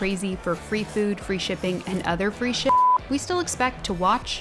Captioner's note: beep